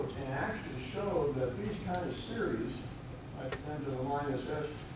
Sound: none

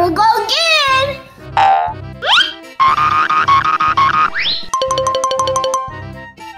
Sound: various cartoon sound effects

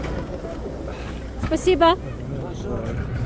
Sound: speaking in Russian

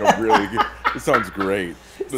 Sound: laugh

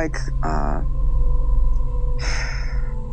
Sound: sighs

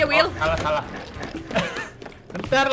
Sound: laugh

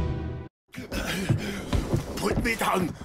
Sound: grunts of pain

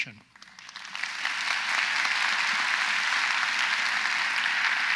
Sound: audience applauds

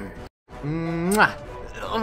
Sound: kiss

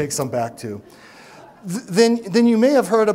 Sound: laughs

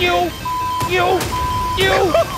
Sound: beep

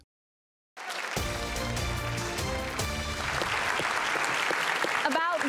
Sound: applauding; energizing music

